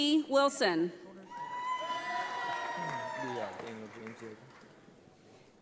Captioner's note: audience applauds